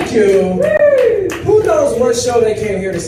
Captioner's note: audience member whoops